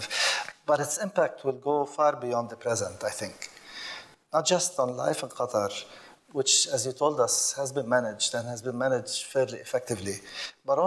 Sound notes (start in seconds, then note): none